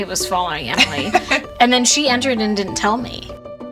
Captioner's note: laughs